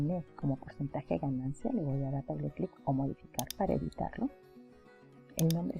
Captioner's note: double click